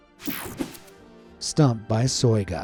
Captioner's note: screen whooshing